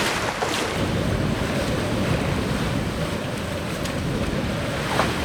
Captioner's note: wind blows loudly